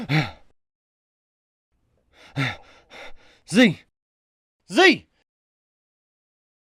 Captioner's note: breathing heavily